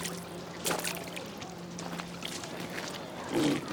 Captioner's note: splashing and grunting